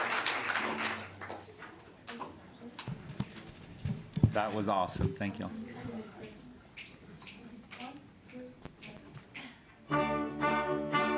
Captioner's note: applause